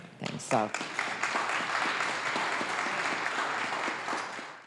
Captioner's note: applause